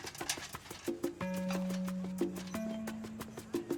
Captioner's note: paint buckets clinking